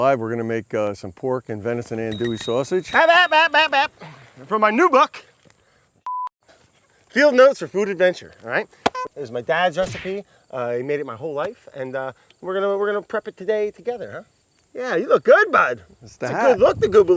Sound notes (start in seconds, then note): 3.8 bicycle bell ringing